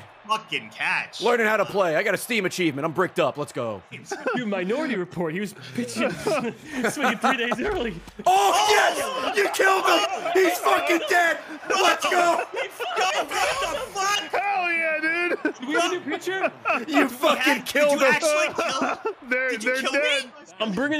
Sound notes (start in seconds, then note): 13.6 everyone screaming